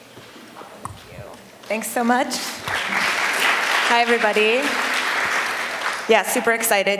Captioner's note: applause